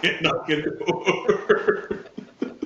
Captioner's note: laughing